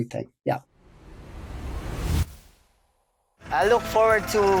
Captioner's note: air swish